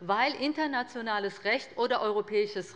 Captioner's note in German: none